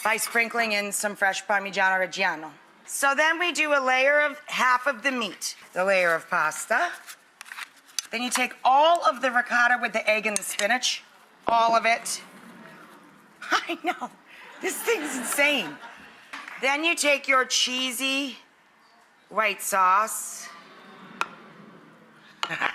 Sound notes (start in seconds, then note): 12.4 audience awes; 14.3 audience laughing; 20.6 audience awes